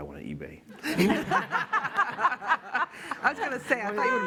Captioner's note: laughter